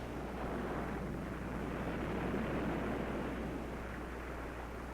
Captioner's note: waves crashing